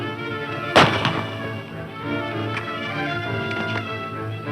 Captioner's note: gun bangs